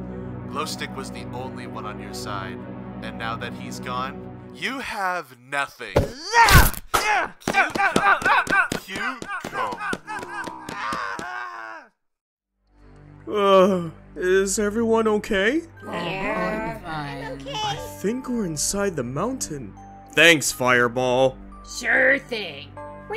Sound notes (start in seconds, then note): 6.0 Pitchfork stomping and yelling angrily; 9.7 becoming distorted